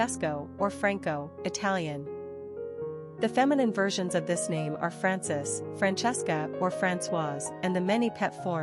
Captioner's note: Italian